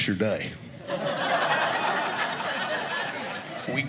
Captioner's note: audience laughing